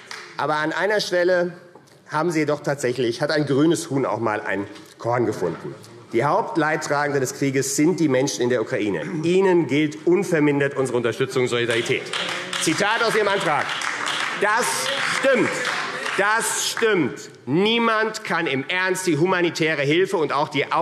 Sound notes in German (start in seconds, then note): 0.0 Beifall AfD; 11.6 Beifall